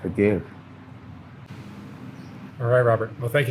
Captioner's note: traffic passes